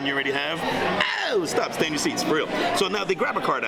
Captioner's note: yells